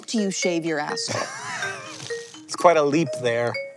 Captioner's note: HANK wheeze-laughs